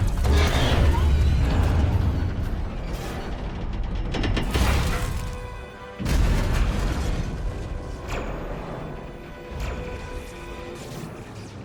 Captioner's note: gunshots